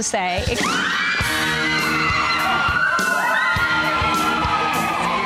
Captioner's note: cheerleaders yelling